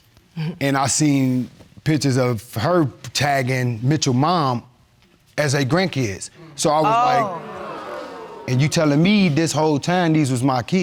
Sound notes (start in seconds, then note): 6.3 audience exclaiming